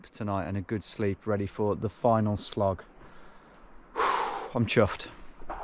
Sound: sighs

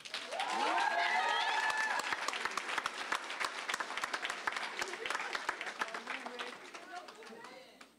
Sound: applause, cheering

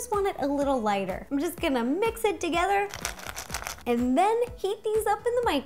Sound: bowl shakes

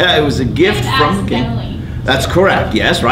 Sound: laughs; student off mic

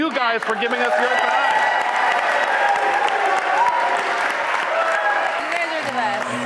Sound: audience cheering; audience applauding; upbeat blues music

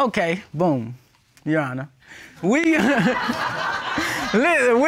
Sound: all laugh

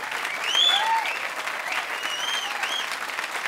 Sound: crowd cheering

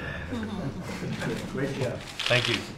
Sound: laughter

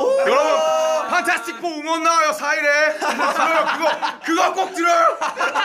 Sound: laugh

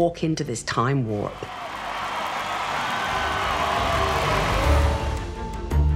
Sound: cheering

